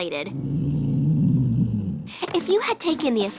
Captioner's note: stomach growling